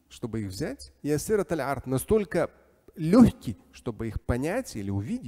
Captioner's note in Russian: говорит на арабском